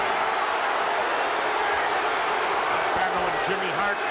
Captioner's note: crowd booing